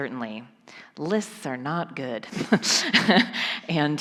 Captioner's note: chuckles